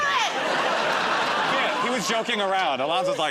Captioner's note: laughter